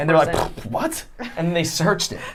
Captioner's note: huffs